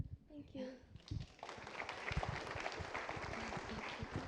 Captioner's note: applause